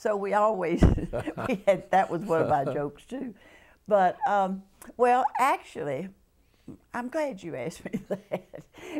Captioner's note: laughter